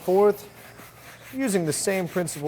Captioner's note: brush strokes